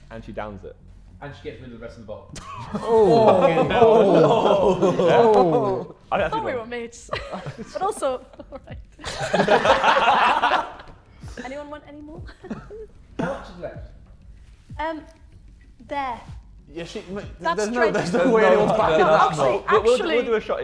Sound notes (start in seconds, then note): 2.4 Sidemen laughing and exclaiming; 8.9 Sidemen laughing